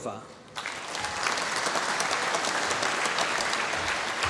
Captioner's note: applause